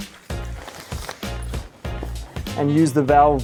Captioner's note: bag ruffling